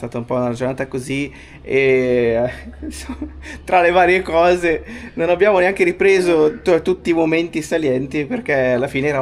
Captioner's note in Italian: risate